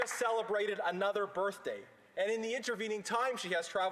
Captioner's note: applause